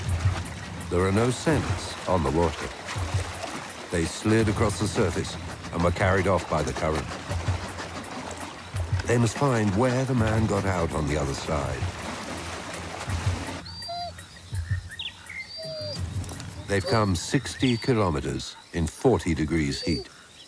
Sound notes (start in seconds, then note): 15.4 whimpering